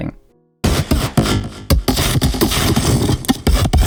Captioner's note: digital sounds